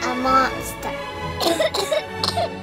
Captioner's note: coughing